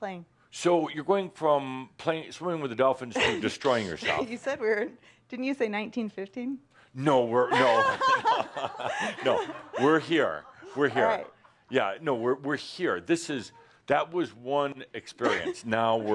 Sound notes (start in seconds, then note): 7.5 some laughter